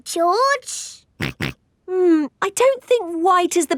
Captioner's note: snorts